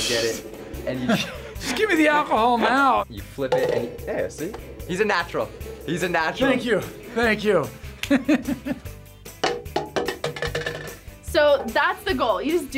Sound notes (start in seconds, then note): 9.0 laughs